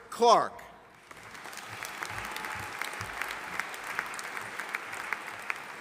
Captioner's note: audience applauding